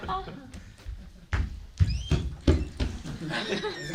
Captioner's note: laughter; loud footsteps